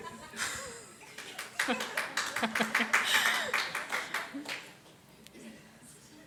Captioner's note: scattered applause